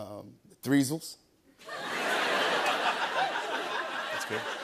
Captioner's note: laughter